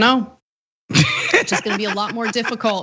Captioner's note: laugh